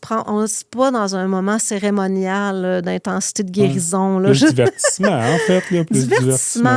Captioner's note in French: rires